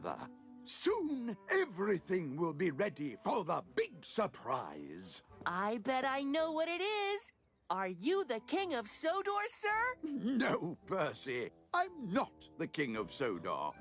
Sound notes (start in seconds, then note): 10.0 laughs